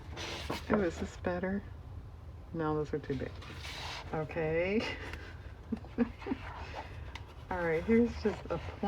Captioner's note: laughs